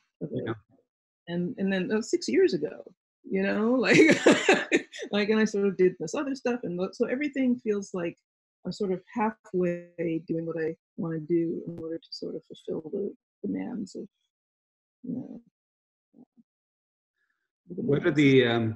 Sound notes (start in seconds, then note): 3.9 laughs